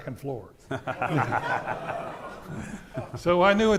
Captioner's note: audience laughing